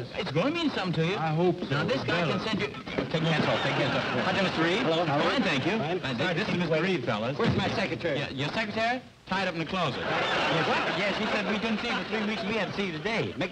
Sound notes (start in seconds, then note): 3.1 indistinct chatter